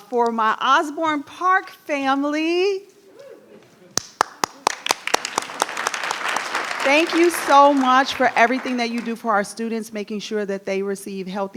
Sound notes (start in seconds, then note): 3.9 all clapping